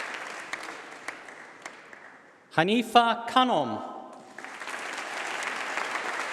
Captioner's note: applause